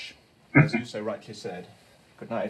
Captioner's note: chuckling